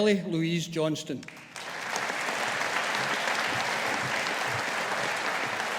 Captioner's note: audience applauding